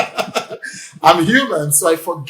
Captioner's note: laughs